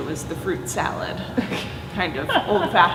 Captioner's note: laughing